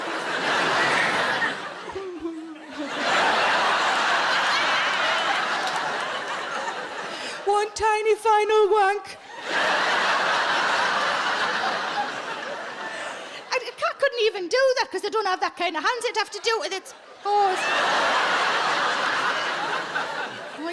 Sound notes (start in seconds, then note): 0.0 audience laughs; 3.1 audience laughs harder; 9.2 audience laughs; 18.0 audience laughs